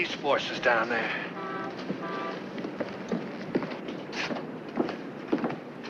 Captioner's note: car horns honking